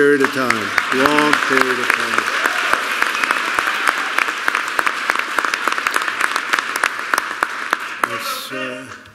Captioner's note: applause